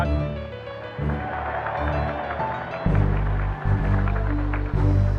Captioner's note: applause